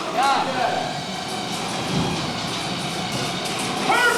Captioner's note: motors powering Battle Copter rotor